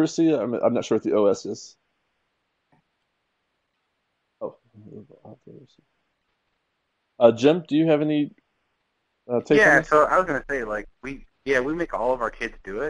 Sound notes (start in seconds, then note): 4.4 muttering